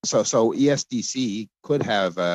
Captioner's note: speaking French